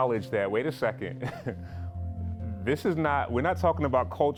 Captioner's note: risada